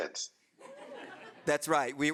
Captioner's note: audience laughing